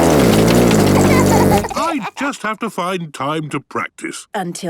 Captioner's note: laughter